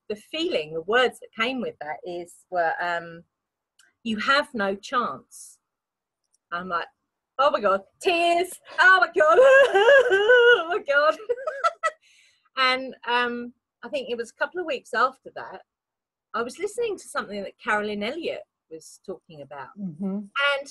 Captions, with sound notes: - The feeling, the words that came with that were you have no chance, I'm like, oh my God, tears, oh my God, (fake crying) God, (laughs) and I think it was a couple of weeks after that, I was listening to something that Caroline Elliot was talking about